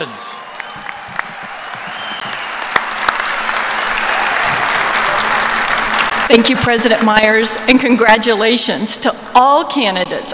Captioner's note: applause